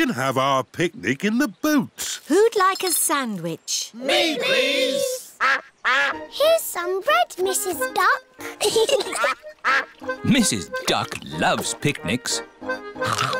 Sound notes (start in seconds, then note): 8.4 both giggling